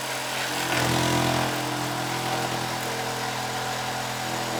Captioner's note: saw buzzing